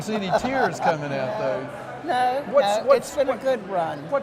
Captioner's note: laughs